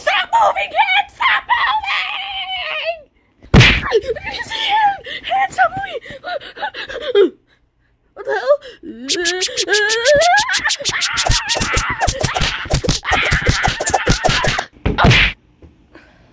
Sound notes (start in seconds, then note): 3.5 A mix of Mario's screams and hits